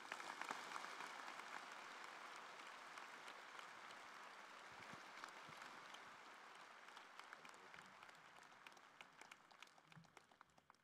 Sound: applause

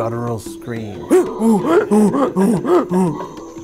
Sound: imitating monkey sounds

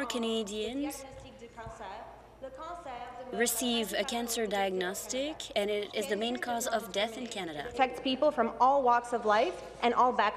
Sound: speaking in French

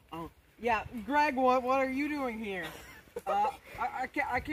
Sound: producer laugh in back

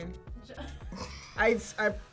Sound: laughs

